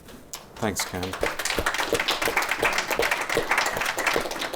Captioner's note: audience applauds